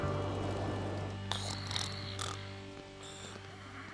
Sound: snoring

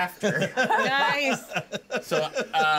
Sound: speaker laughs

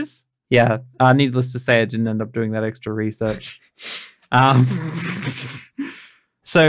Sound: laughing

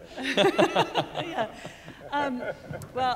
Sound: laugh

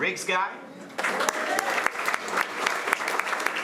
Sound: applause

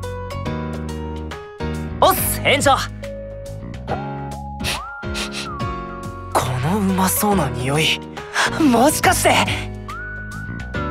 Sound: sniff sniff

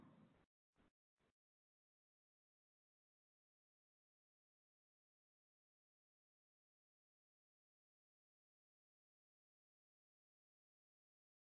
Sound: long silence

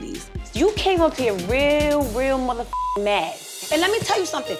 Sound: beep

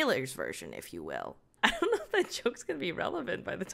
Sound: laughs

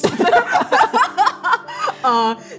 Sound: both laughing

